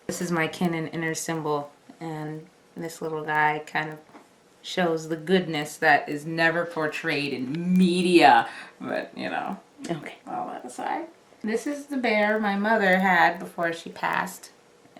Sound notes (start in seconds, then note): 5.6 mocking tone; 10.6 tone of resignation